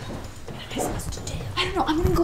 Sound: whispers

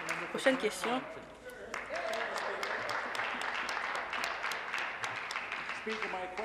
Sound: applause

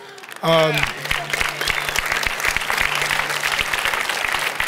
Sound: audience applauding

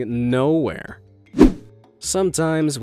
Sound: image whooshing

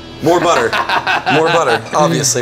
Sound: laughs

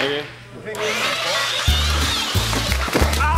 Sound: belt sanders whirring; light music

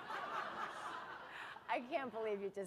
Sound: laughter

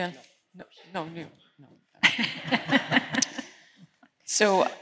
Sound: laughter

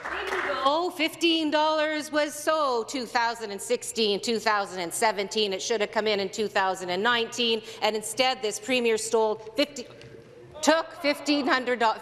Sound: some Applause

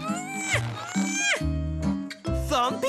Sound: giggles and grunts with effort

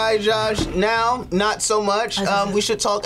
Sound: gags

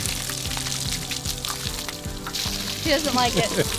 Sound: water splashing

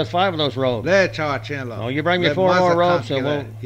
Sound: native American speaking foreign language

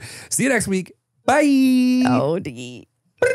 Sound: laughs

